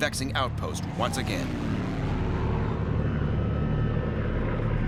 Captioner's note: engine roaring